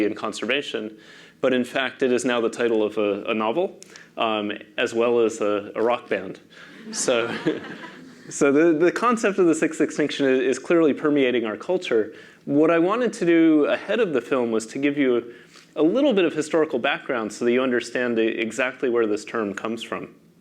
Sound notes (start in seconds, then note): 6.7 laugh